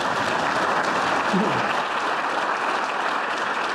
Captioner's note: applause